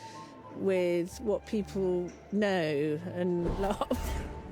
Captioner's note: laughs